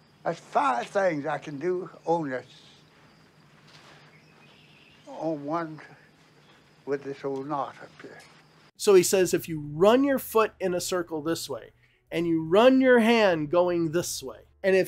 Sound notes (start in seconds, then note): 3.0 birds chirping